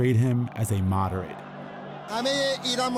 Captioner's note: soundbite of archived recording